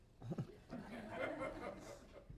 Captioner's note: laughter